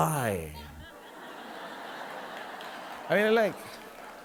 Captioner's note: audience laughing